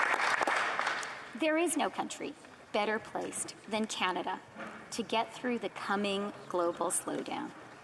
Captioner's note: applause